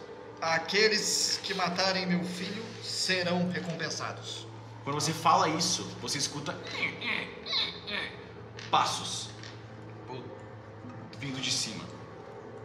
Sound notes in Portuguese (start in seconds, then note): 7.3 piso rangendo